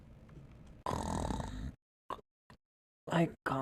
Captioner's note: snoring